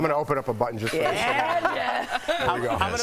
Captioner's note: laughter